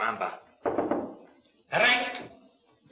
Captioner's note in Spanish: Llaman a la puerta